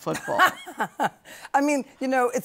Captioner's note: laughter